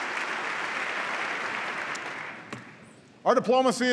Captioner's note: applause